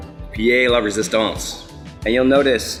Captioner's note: upbeat music; foreign language